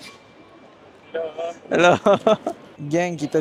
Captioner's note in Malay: ketawa